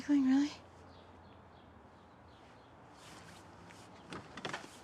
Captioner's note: birds chirping